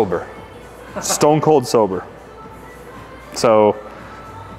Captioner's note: laughs